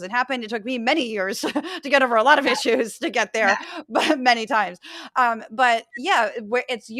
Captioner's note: laugh